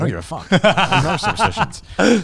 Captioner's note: laughing